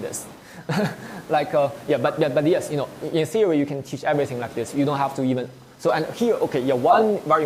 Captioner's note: laughs